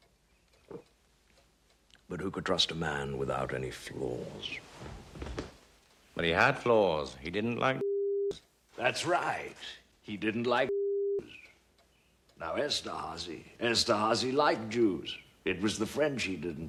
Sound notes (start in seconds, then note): none